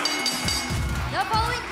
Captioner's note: bell ringing